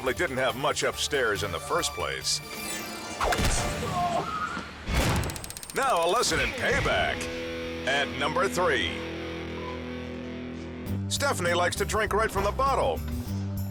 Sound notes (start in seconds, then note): 3.2 club whistles; 5.2 countdown squeals